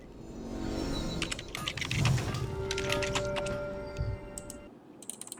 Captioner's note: typing sounds